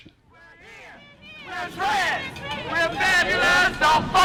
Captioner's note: group Chanting